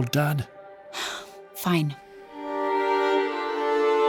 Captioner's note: sighing